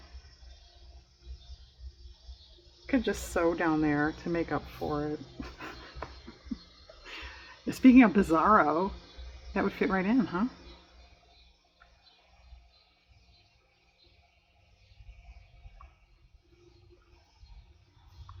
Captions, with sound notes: i could just sew down there to make up for it (laughs) speaking of "bizarro," that would fit right in huh?